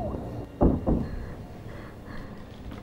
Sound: footsteps; knocking on door

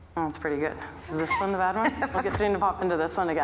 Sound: laughing

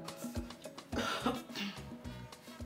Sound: coughing

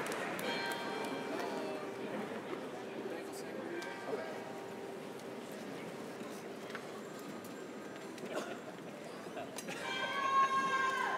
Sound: bell rings

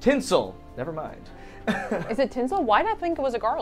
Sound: laughs

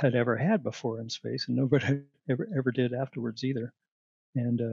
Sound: laughter

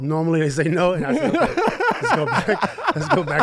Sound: laughs

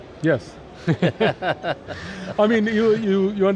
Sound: laugh

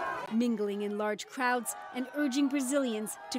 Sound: crowd Noise

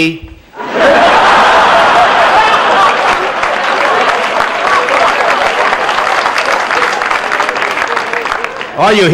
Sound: laughter

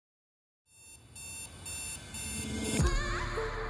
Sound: alarm clock ringing

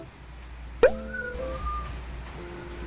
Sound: beep

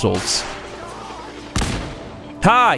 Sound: boom!

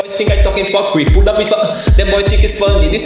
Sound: gasp

